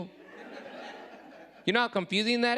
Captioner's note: audience laughing